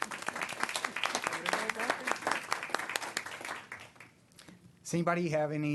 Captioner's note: applause